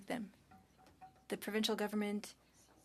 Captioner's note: speaking French